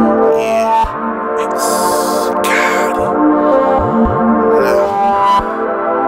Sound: inhales; grunts

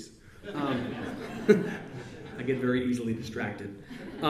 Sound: laughs

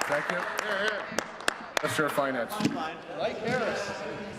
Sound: applause

